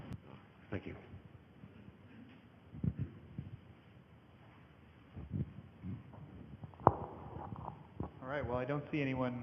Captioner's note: microphone noises